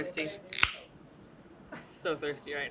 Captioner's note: popping can sound